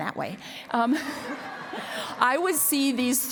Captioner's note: laughter